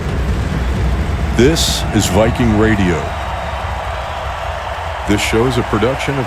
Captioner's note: audience cheering